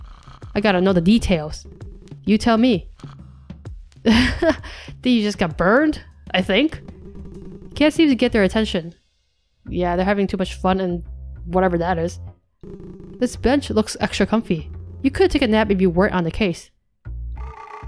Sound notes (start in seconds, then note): 4.0 chuckles